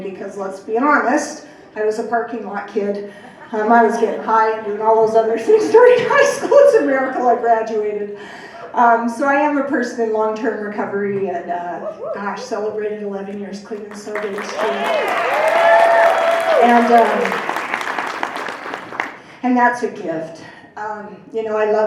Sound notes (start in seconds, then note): 13.8 applause